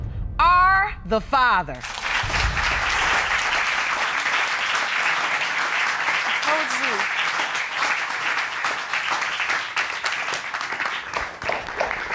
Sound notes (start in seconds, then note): 2.2 applause